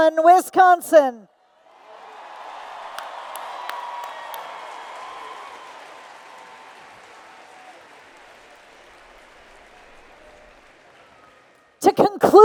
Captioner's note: applause and Cheers